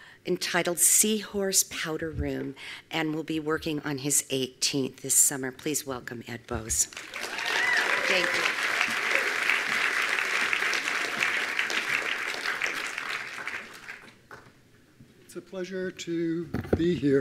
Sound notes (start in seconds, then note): 6.9 attendees applauding